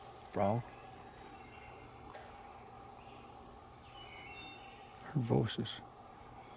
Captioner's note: birds chirping from afar